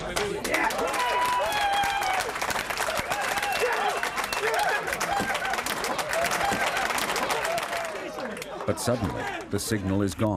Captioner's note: cheers and applause